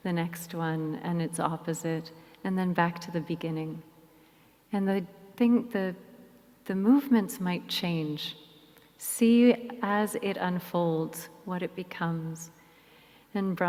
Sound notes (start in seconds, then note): none